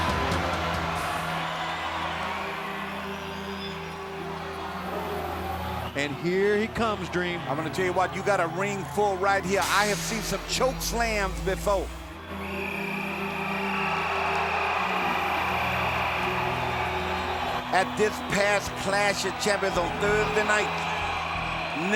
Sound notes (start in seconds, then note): 0.2 ominous music; 12.9 mixed crowd reaction